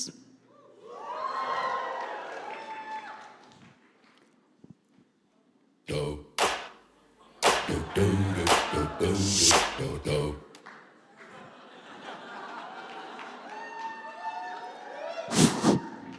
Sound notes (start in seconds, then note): 0.6 cheering; 11.1 laughter; 11.2 cheering